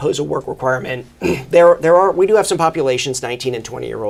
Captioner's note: clears throat